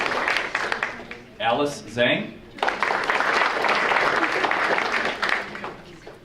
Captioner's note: audience applauding; audience applauding